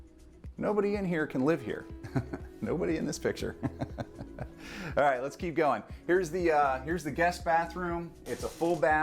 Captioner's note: haha